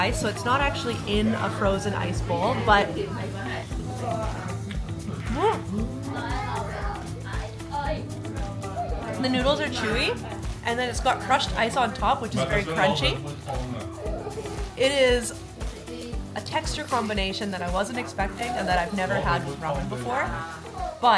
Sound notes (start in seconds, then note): 5.0 crowd talking; 5.0 upbeat music